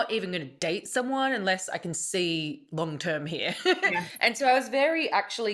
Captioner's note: chuckles